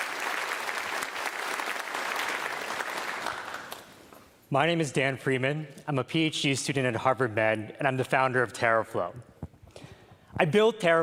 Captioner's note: applause